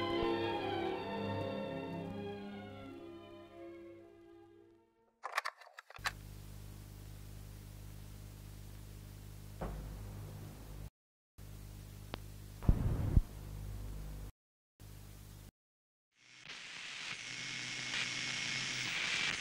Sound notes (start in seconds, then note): 5.2 click; 6.3 static buzzing; 9.9 static feedback; 16.2 heavy static buzzing